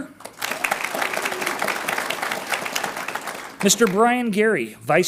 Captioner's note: audience applauds